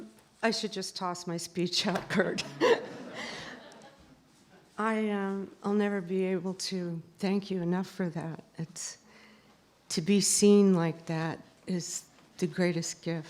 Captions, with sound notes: I should just toss my speech out Kurt. [laughter] I will never be able to thank you enough for that. To be seen like that is the greatest gift.